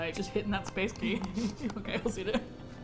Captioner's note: tap tap tap